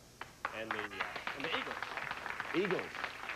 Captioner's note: audience applauding